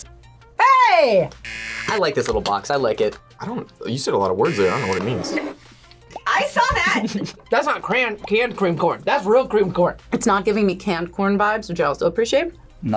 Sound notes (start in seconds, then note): 1.4 buzzer rings; 4.4 buzzer rings